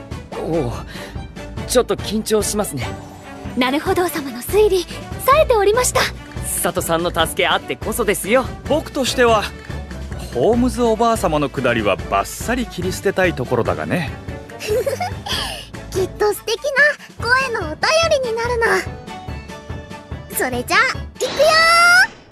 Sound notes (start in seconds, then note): 14.6 laughs